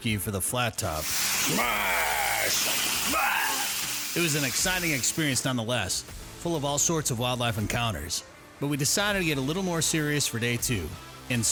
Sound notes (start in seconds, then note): 1.0 meat sizzling